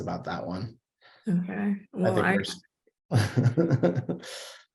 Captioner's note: laughs